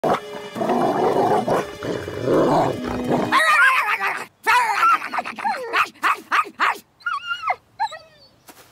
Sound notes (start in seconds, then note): 0.0 barking and Growling; 3.4 Nikki growling and barking, wolf whining